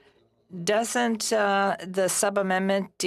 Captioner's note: speaking French